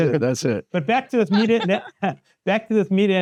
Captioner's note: chuckling